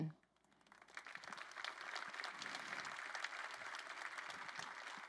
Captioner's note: crowd applauding